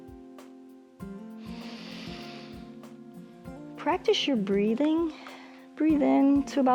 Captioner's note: inhales